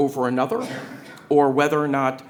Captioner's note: attendee coughing